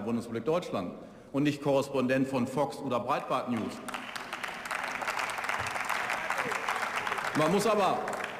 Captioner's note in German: Beifall